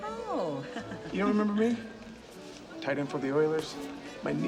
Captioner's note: laughing